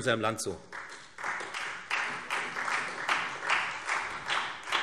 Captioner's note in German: Beifall Freie Demokraten und SPD